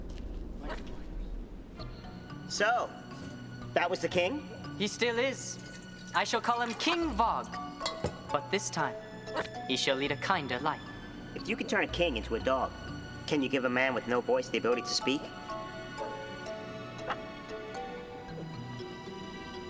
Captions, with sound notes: (footsteps) (somber orchestral music) - So, that was the king? - He still is. I shall call him King Vog. But this time, he shall lead a kinder life. - If you can turn a king into a dog, can you give a man with no voice the ability to speak?